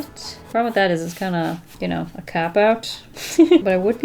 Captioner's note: laughs